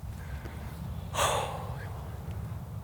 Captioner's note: exhales